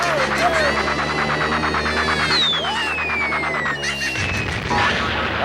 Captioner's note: aH@udiencH@e applH@auding